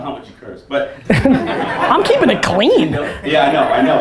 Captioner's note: audience laughter